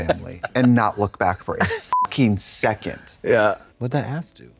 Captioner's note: beep